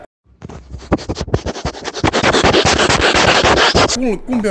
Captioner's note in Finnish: koiran nuuhkutusta